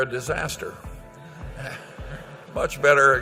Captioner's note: laughter